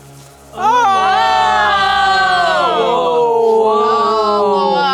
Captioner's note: group cheering